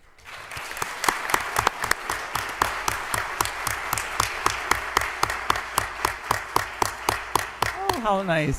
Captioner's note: applause